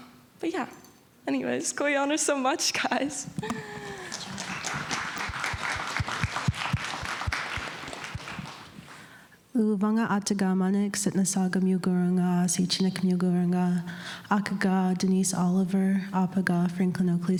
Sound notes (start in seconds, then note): 3.8 applause; 13.2 speaking indigenous language